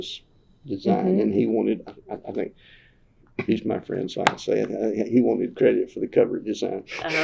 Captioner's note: laughs